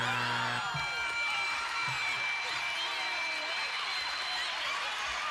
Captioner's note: buzzer; cheering